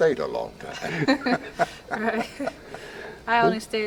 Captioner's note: both laughing